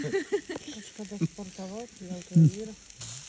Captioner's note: Lithuanian courtesy laugh